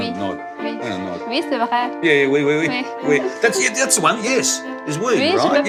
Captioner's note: speaks french